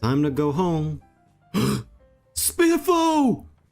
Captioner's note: gasp